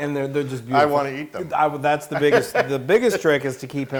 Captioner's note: laugh